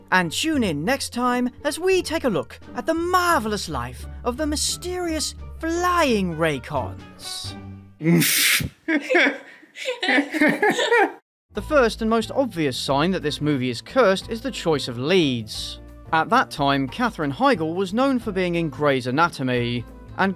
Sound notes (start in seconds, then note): 8.8 laughs